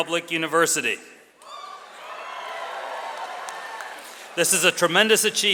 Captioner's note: audience cheers